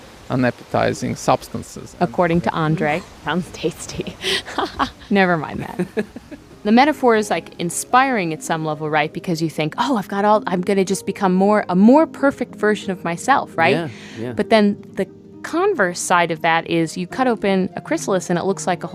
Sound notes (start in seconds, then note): 3.9 laughs